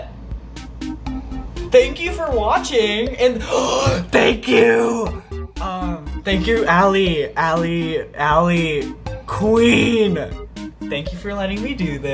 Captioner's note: gasps